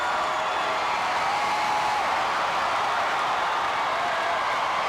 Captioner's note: audience cheering continues